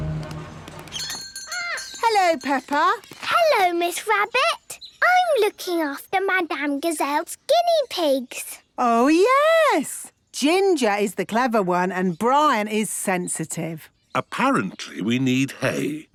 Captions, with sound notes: (bell jingling) - Hello, Peppa. - Hello, Miss Rabbit. I'm looking after Madame Gazelle's guinea pigs. - Oh, yes! Ginger is the clever one, and Brian is sensitive. - Apparently, we need hay.